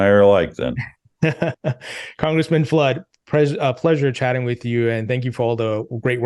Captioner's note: laughs